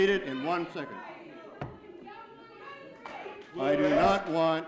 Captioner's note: audience yelling